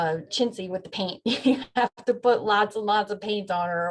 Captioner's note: laughs